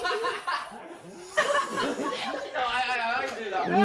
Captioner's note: laughs; giggle